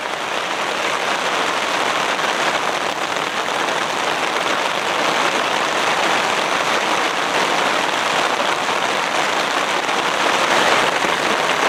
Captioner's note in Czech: Zní silný déšť